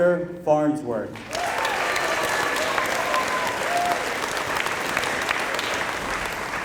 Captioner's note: applause